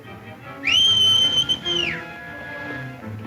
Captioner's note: whistles